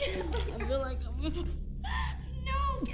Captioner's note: gagging